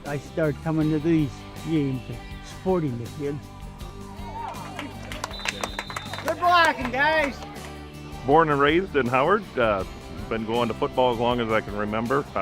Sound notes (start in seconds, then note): 5.1 whistle blows; 6.0 fans cheer